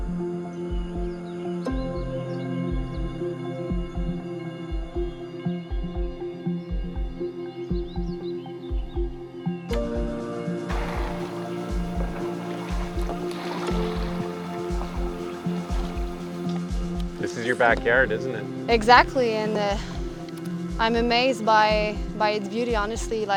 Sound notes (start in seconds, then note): 0.1 peaceful music; 7.3 birds singing; 7.3 water splashes